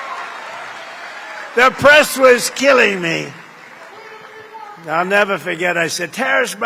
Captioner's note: applause